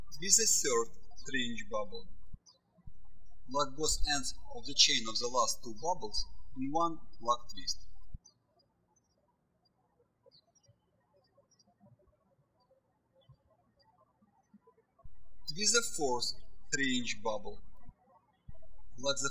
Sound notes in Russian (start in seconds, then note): 8.8 птички щебечут